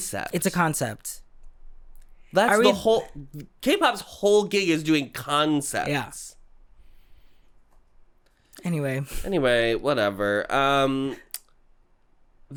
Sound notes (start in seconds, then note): 6.3 confused silence